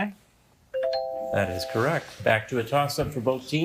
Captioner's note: bell ringing